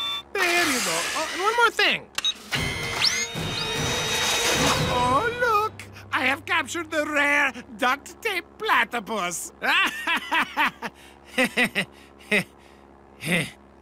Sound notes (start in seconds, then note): 9.6 laughs; 9.6 chuckles